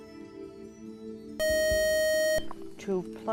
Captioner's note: beep